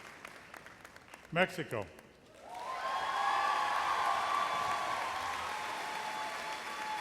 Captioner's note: audience erupts in thunderous cheers